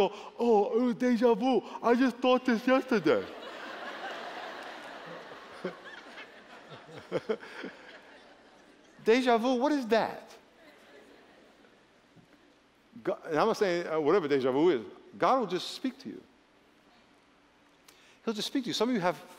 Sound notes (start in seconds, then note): 5.9 laughter